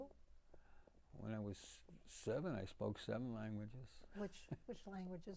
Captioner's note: laughing